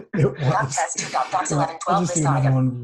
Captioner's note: laughter